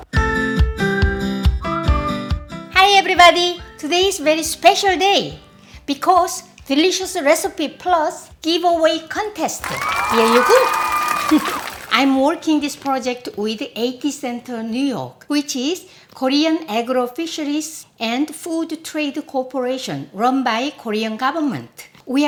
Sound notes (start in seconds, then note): 0.3 upbeat music plays; 9.6 audience clapping